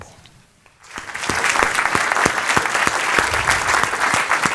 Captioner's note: crowd clapping loudly